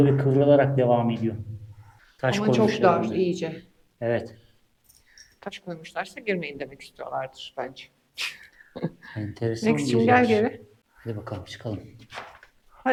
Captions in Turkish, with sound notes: ve kıvrılarak devam ediyor. Taş koymuşlar ama çok dar iyice. Evet taş koymuşlarsa girmeyin demek istiyorlardır bence. [kahkaha] Enteresanim geli. Hadi bakalım çıkalım.